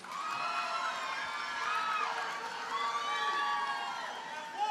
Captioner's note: audience cheers and applauds